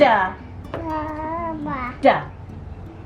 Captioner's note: babbling quietly